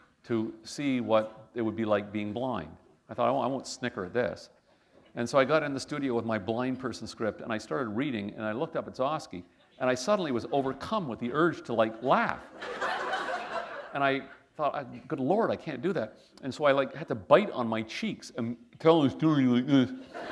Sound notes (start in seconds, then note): 12.0 laughter